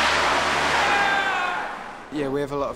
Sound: yells

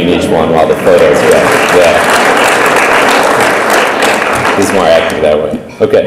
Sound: audience applaud

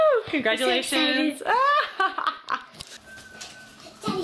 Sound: laughter

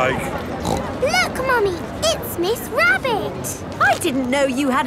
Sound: snorts

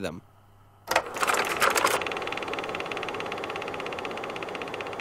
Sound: mechanical whirring

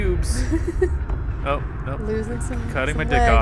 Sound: giggles; voiceover

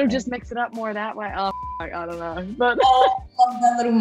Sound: laughs

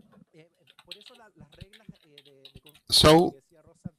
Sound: speaking foreign language

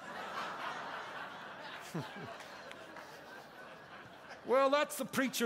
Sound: congregation laughing

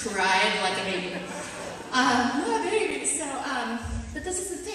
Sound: audience laughter

